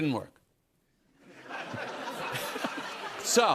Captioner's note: laughter